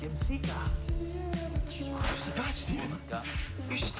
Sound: door opens

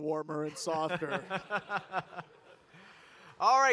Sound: laughs

